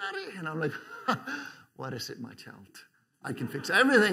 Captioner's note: chuckles